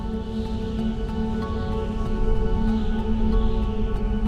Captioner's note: le vent souffle